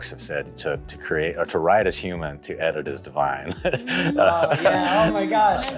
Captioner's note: laughs